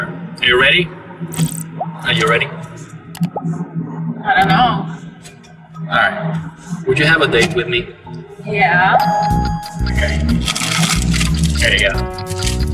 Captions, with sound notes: Are you ready? Are you ready? I don't know. All right. Would you have a date with me? Yeah. (bell dings, clock ticking) Okay. Here you go.